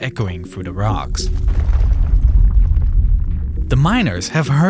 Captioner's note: ground rumbling